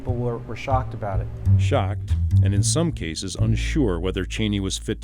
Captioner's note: voiceover